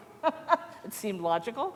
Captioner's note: laughter